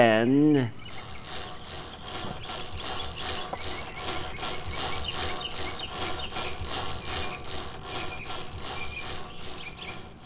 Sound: chain cranking

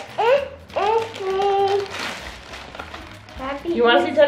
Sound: groans

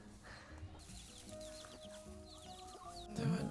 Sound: chirping

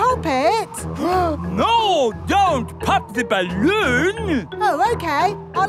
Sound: gasps

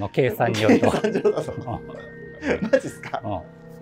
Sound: laughing

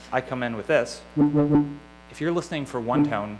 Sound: higher tone

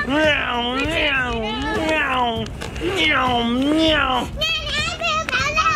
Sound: laughing; imitates engine revving; child singing

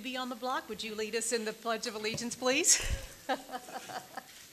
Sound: laughs

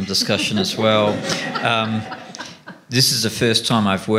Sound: laughter

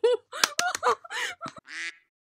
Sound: clap; quack

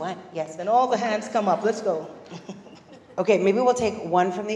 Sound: laugh

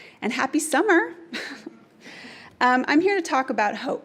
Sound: chuckles

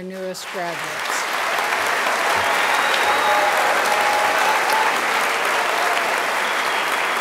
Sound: raucous applause

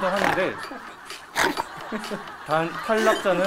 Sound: laughing

